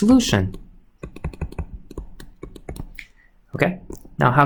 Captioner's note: computer mouse clicking